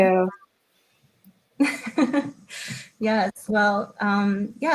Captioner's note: chuckles